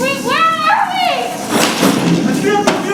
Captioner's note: only the thunder continues